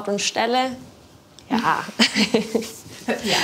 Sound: laughter

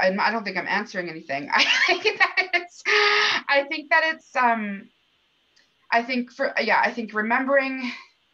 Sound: laughter

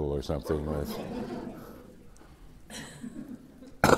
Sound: laughter

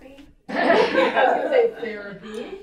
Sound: audience laughs

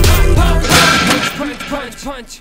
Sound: thud

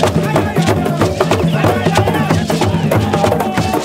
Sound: crowd; drums Beat

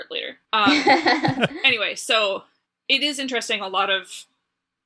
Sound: laugh

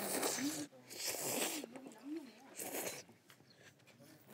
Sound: slurping away

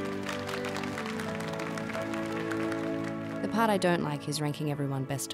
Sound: audience applauding

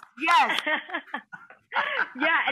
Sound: laughing

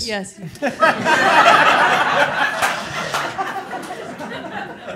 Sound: all laughing

